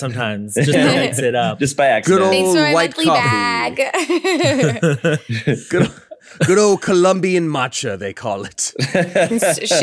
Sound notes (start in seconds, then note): 3.8 laughing